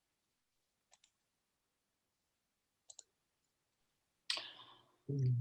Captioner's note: mouse clicking